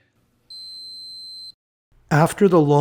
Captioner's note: long beep